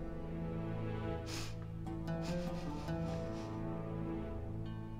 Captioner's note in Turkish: Koklama sesi